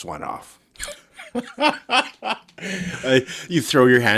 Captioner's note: laughing